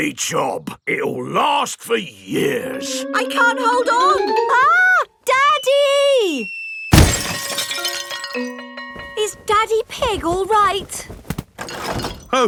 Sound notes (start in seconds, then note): none